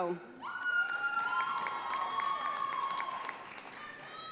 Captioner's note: audience applauds